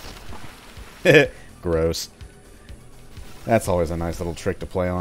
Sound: chuckles

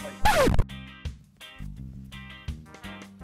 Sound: record scratch

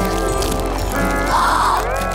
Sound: gasping

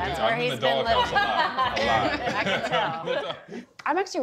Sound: laughs

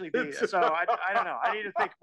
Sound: laugh

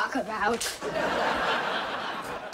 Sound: laughing

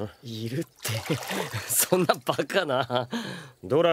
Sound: nervous laugh

